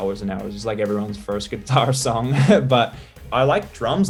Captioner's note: laughs